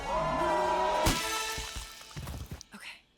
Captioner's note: man punching